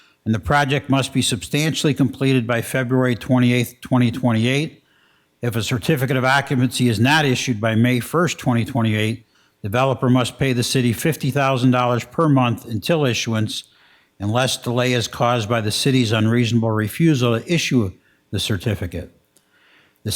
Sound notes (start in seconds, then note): none